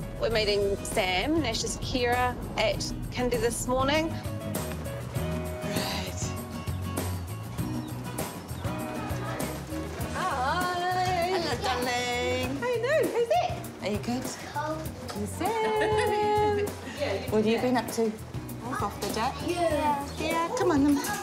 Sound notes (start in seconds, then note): 18.6 children chatter